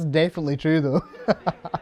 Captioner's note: laughs